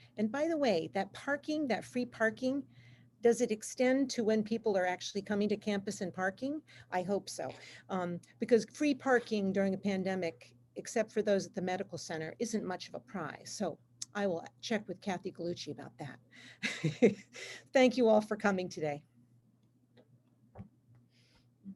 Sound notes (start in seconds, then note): 16.6 laughs